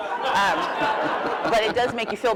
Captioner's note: laughter